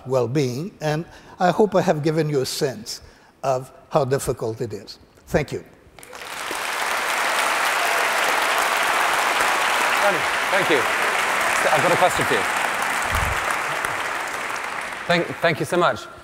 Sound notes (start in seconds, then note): 7.1 applause